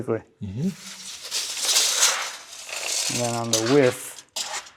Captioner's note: measuring tape scraping